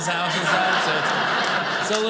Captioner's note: audience laughing